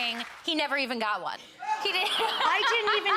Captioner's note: Leah laughing